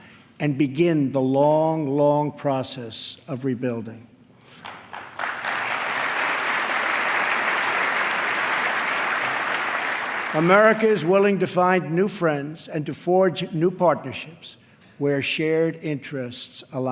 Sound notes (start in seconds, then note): 7.3 applause